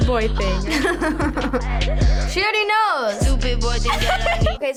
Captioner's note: chuckles